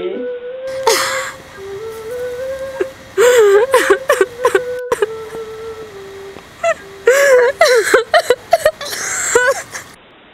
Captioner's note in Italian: Piange